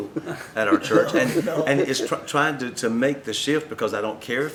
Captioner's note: laughter